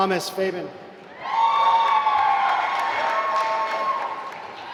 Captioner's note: applause